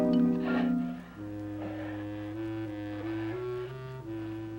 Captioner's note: Johnny breathes heavily